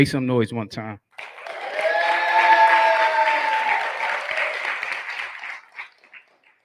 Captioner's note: cheering